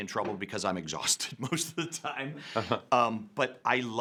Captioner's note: laughs